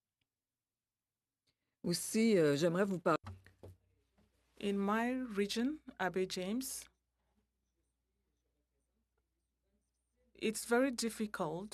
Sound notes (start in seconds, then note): 8.5 speaking french